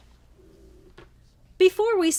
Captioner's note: placemat thuds